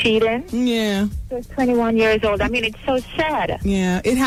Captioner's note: none